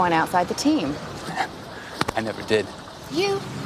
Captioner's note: chuckles